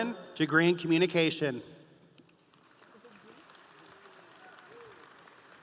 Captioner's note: audience applauding